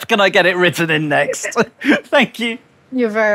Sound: both laugh

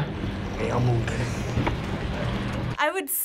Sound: laughs

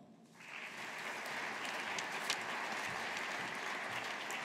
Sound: audience applauding

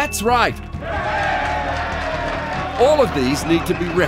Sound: applause and cheers

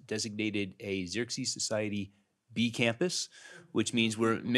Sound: murmurs

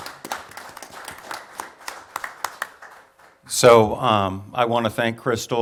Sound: applause

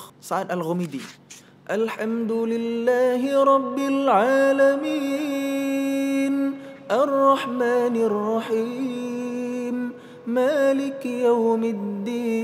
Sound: recites quran

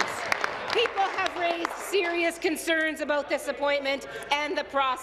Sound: applause

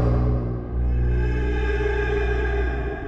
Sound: ghostly voice

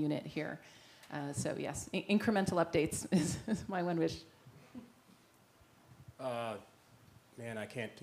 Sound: laugh

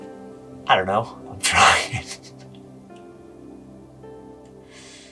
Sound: laughs

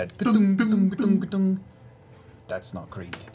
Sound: hollow metal knocking sounds

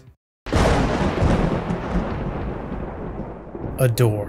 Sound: lightning

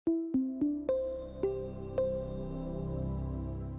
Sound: bells chiming

